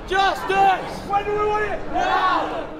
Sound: voice of crowd shouting; voice of protester shouting

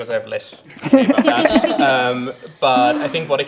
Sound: laughs

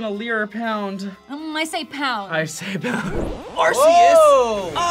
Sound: laughs

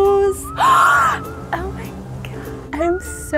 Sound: inhales sharply in joy

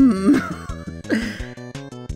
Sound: giggle

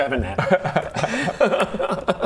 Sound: smart laughter

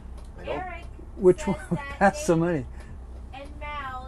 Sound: laughing

